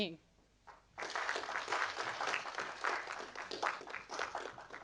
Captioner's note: audience applauding